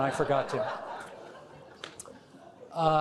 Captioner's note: crowd laughing